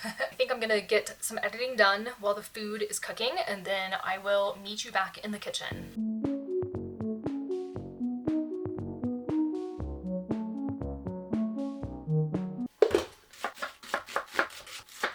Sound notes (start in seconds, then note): 12.7 cooking noises